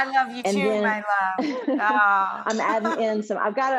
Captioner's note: laughs